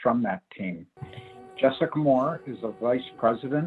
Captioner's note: background high-pitched hum with random crinkling and vague voices begins